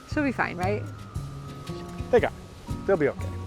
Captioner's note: whispers